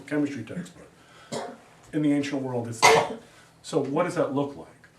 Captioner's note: student coughs